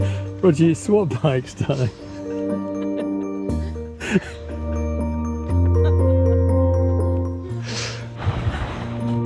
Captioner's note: laughing